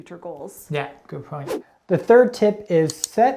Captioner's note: air whooshing